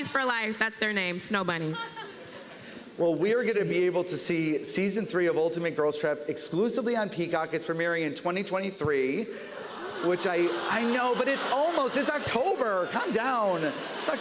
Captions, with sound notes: Snow bunnies for life. That's their name. Snow bunnies. Well, we are gonna be able to see Season 3 of "Ultimate Girls Trip" exclusively on Peacock. -It's premiering in 2023. -[audience groaning] I know, but it's almost. It's October. Calm down.